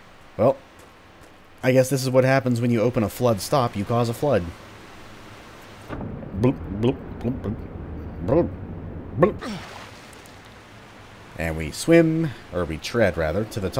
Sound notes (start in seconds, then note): 6.7 underwater gurgling sounds